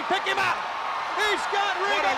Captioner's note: crowd cheering